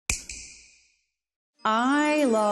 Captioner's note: snap